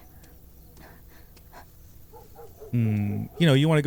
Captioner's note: dog barking